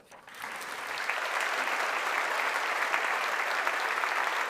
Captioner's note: audience applauding